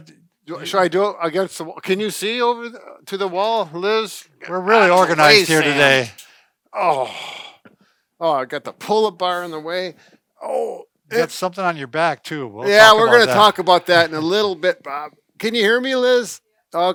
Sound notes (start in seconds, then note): 10.4 groans